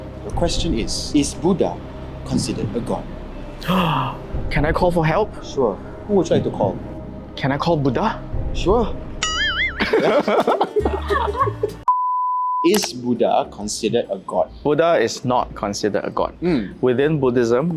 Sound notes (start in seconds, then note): 3.6 gasps